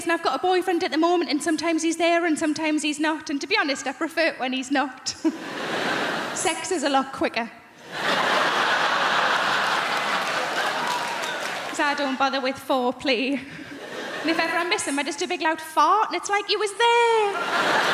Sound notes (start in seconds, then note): 5.1 laughs; 5.2 crowd laughing; 7.8 crowd laughing; 17.2 crowd laughing